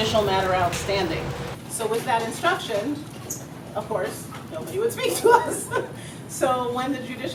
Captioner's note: laugh